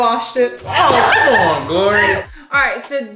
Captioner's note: laughing